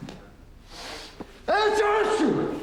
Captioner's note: sniffing; sneezing